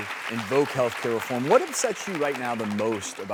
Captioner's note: crowd clapping